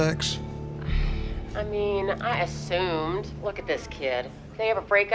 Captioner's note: sighs